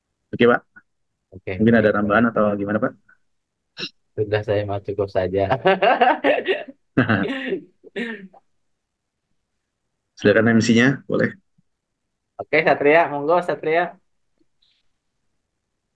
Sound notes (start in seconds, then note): 5.5 laughs